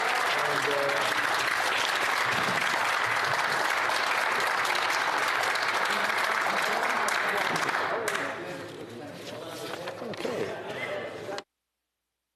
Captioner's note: applause